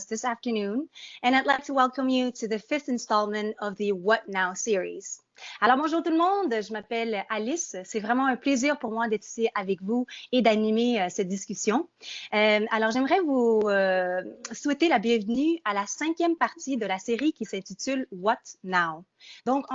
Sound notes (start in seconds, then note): 5.6 speaking in French